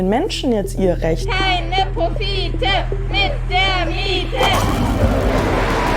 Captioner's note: chanting